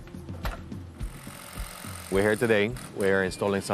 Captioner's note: machine whirring